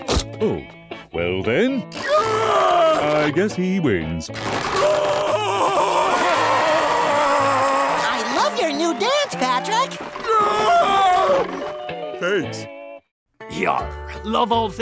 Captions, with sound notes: Oh, well then... [screaming] I guess he wins. [screaming] [cheering] I love your new dance, Patrick! [screaming] Thanks.